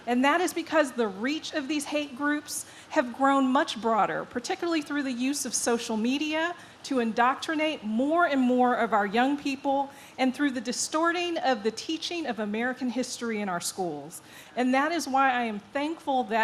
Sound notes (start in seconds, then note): none